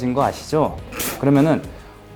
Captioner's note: snoff